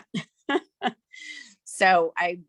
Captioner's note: laughing